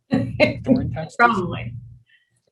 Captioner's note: laughing